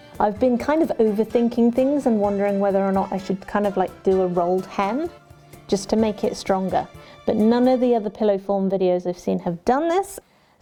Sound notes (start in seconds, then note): none